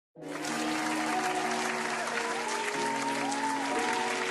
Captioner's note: applaus